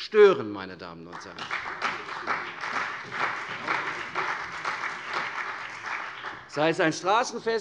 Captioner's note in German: Beifall CDU und BÜNDNIS 90/DIE GRÜNEN